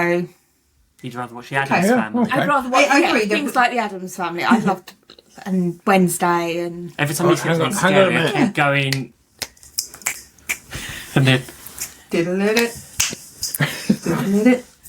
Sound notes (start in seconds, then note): 9.4 snapping; 12.9 snapping